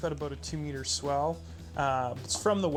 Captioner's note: voiceover